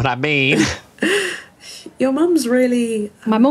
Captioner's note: laughs